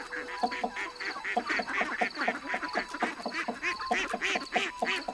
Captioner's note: chicken clucking